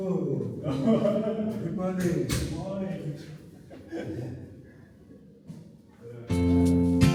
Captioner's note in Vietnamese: tiếng cười